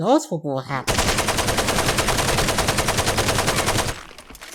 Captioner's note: gunfire